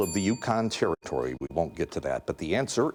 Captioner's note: bell dinging